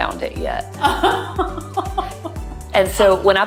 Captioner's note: laughing